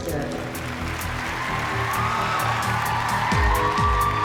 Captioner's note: cheering